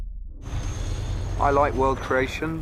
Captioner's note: engine revving